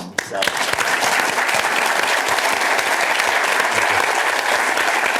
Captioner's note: applause